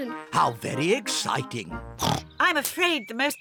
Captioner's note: oinks